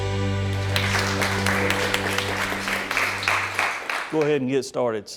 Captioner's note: audience applauds